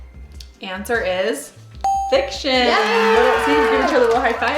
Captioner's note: ding; applause